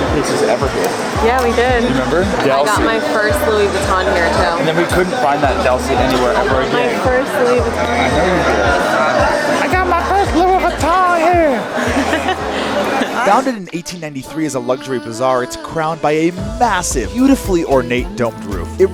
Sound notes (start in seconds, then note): 11.5 laughing